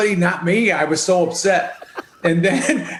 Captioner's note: laughs